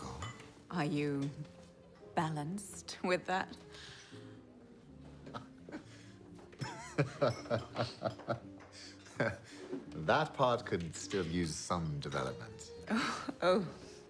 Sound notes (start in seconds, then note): 5.0 Bjorn chuckles; 12.6 chuckles